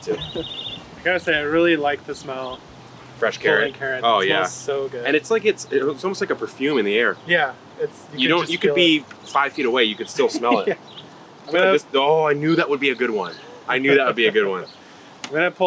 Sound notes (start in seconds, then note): 9.8 laughs